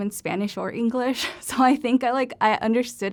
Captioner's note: laughter